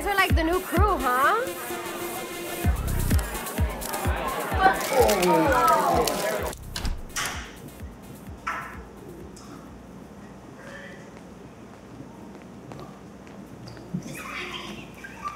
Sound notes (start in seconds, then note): 5.1 lisa vomits